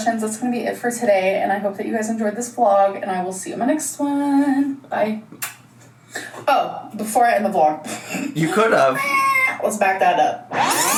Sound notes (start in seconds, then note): 5.4 lips smacking; 8.0 laughs